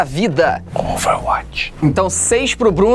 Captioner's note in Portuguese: sussurrando